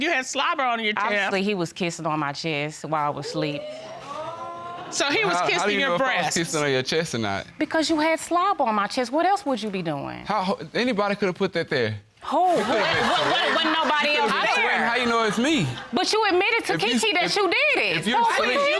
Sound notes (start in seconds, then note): 3.4 audience exclaiming; 10.8 stammers; 12.5 audience laughing